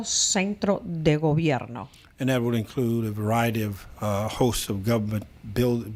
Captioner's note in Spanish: Habla en ingl\s